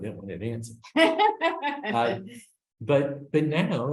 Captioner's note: laughs